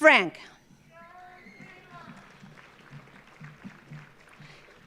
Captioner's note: audience applauding